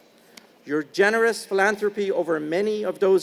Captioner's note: none